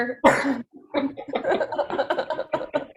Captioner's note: laughing